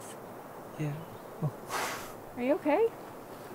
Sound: sighs

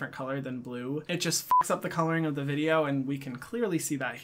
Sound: beeps

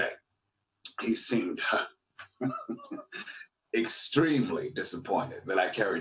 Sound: laughs

